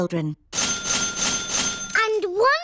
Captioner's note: dinging